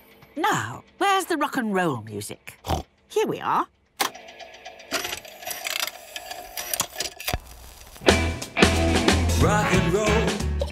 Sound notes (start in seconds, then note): 3.9 clicks, whirring